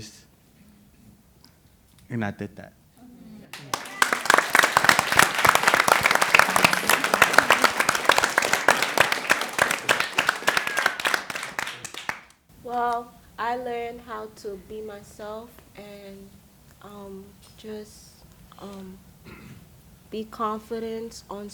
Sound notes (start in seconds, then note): 3.5 applause